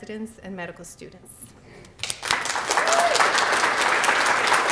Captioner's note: applause